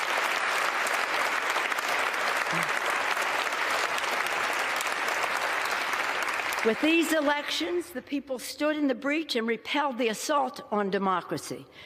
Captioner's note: applause